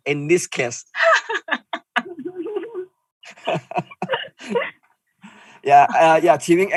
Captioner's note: laughing